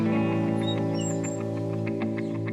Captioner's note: clothesline squeaks